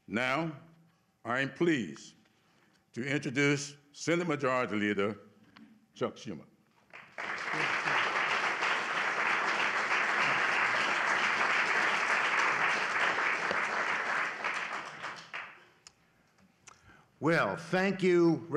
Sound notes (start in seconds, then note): 6.8 applause